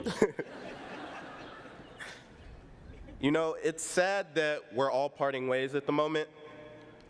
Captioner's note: laughs